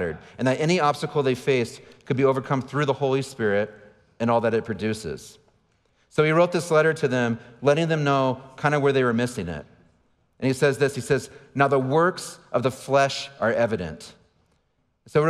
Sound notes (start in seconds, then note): none